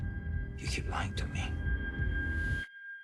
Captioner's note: in English